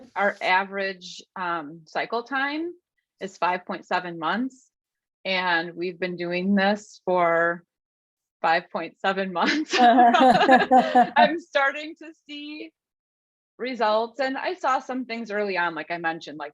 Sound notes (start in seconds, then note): 9.5 laughs